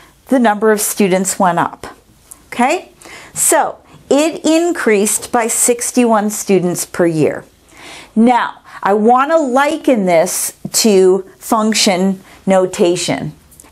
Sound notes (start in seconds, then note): none